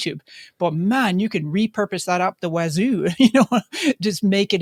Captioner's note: laughs